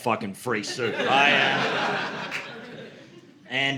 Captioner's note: audience laughing